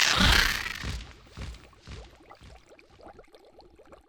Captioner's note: wingbeats